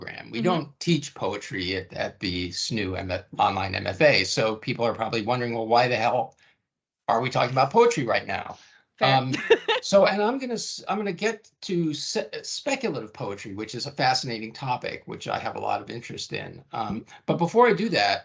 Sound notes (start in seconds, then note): 9.0 laughing